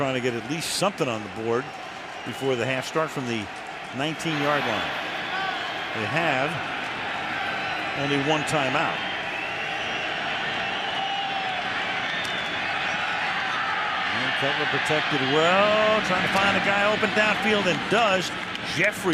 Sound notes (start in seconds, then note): 3.6 crowd cheering